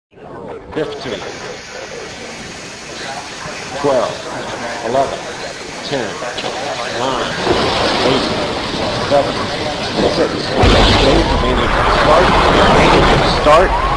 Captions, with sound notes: [countdown starts on intercom] fifteen twelve eleven ten nine eight seven six Main engine start.